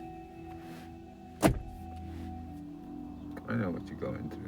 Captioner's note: clunk